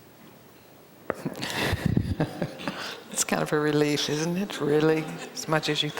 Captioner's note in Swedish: skrattar